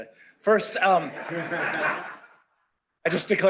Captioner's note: laughter